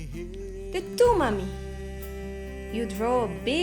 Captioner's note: foreign language